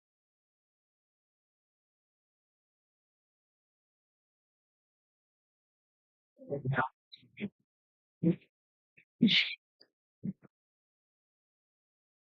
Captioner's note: silence